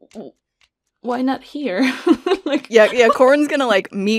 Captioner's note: laughs